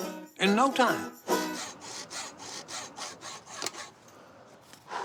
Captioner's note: sawing